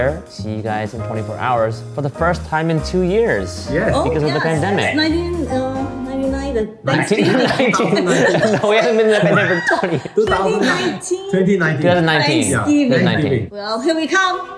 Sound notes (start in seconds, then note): 7.0 everyone laughs